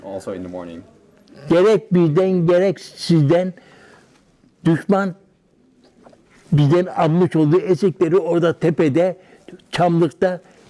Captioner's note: foreign language